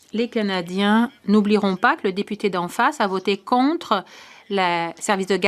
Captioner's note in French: voix de l'interprète